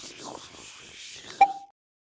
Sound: ping

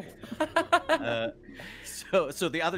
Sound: laughing

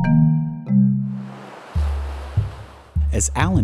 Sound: ocean waves crash

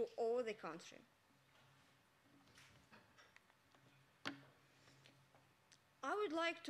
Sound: silence

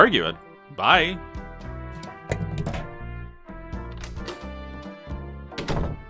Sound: door opens and closes

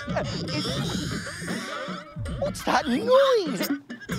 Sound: rattling

